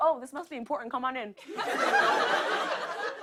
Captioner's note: laughter